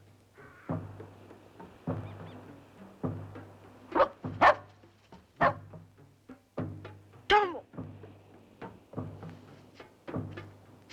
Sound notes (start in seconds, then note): 4.4 barking